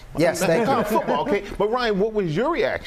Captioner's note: laughter